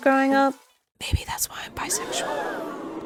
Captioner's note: ironic audience gasp